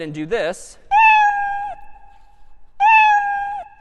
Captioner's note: meowing